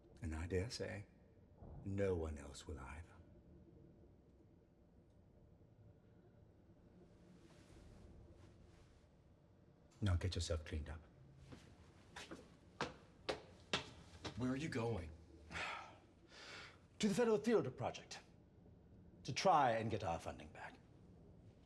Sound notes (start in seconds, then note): 15.5 sighs